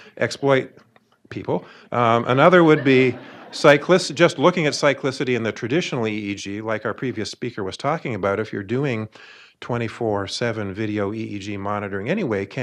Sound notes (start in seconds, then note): 1.9 audience laughing